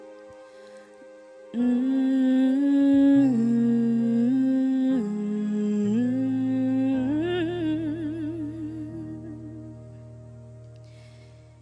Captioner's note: humming